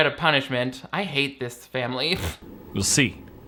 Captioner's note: scoffs